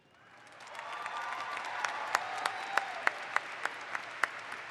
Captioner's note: audience applauds